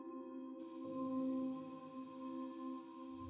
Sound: water running

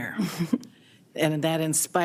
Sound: chuckles

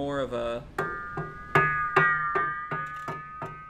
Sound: knocks on metal

